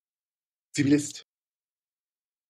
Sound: fast Pronunciation

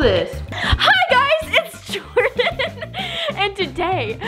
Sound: laughs

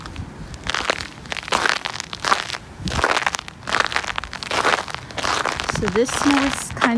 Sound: hard crunching sound

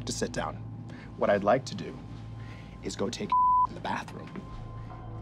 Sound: beep

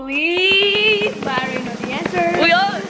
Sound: slapping hands on lap

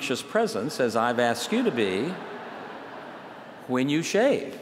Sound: laughter

